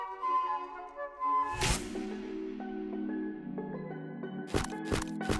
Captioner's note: gentle classical music; camera snapping